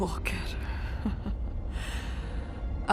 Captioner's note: Miraj chuckling